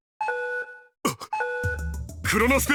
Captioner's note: gasp